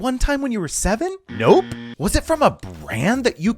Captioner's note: buzzer buzzing